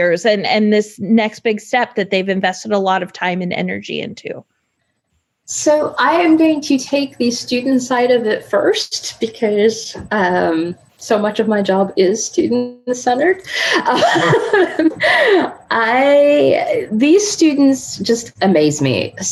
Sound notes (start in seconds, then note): 13.4 laughing